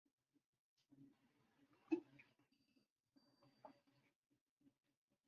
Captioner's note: silence